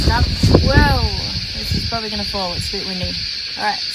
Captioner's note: wind noise continues; wind noise in the camera mic